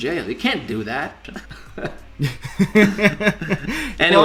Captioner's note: both laughing